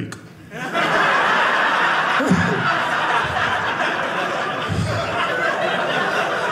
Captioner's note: audience laughing